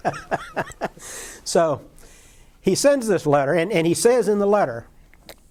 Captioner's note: laughter